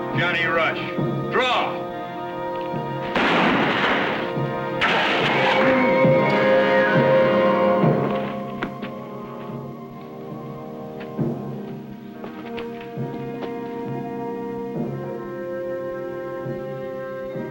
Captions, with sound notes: Johnny Rush. Draw. [GUNSHOT]